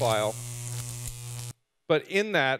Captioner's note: electricity buzzing